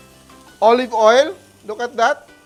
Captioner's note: sizzles